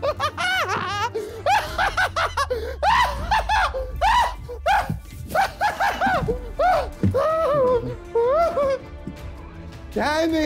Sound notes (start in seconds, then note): 0.8 screaming